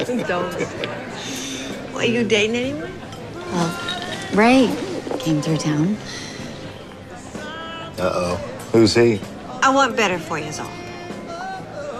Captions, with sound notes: [humming and laughing] Are you dating anyone? Ray came through town. Uh-oh. Who's he?